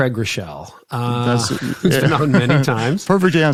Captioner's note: laughing